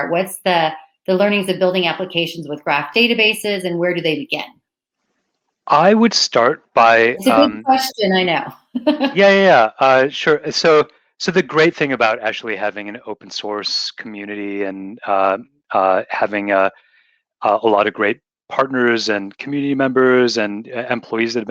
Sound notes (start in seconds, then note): 7.2 laughs